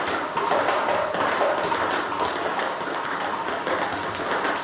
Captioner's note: ball ping pong hitting continues